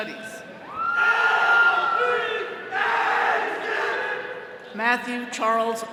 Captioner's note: all cheering; attendees chanting